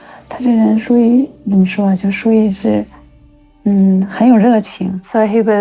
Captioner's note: speaking in foreign language